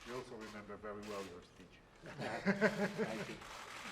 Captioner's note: laughter